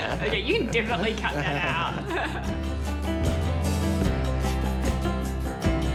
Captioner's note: both chuckle